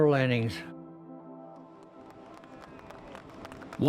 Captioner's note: applause